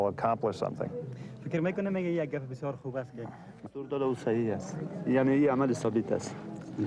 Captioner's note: men speaking in foreign language